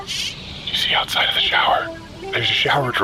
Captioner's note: whispering